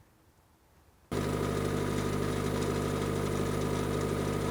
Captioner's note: machine whirring